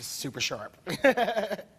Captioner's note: laughing